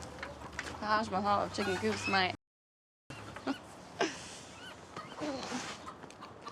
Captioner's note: chuckles